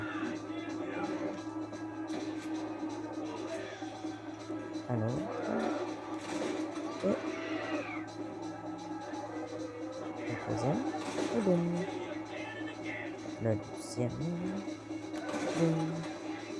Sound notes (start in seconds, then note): 0.0 music and exploding spitter; 5.3 music and hits; 10.3 tires; 14.7 tires; 15.0 music and exploding spitter